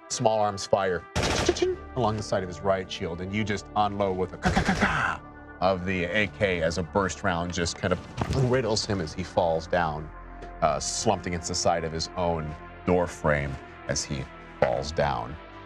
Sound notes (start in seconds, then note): 1.2 guns firing; 4.5 gun firing